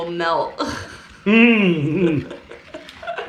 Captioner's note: both chuckling